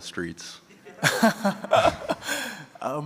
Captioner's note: laughter